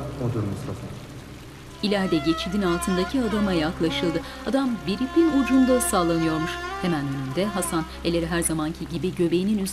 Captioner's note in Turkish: Yağmur sesi; Müzik - Gerilim